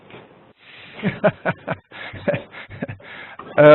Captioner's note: laughing